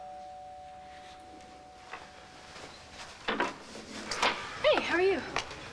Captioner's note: doorbell rings